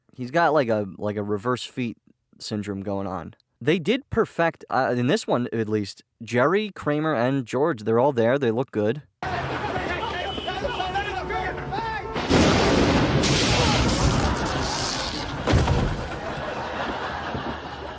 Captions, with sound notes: He's got like a, like a reverse feet syndrome going on. They did perfect- in this one, at least. Jerry, Kramer, and George, they're all there. They look good. [thunder strike] [Kramer yelps in pain, laugh track]